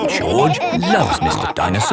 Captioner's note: all laughing